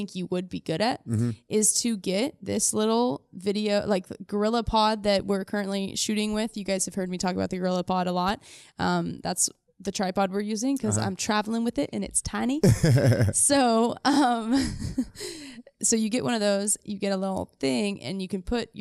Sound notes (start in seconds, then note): 12.6 laughs